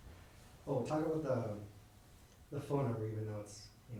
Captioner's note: voiceover